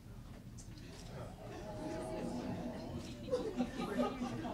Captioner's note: oohs and ahhs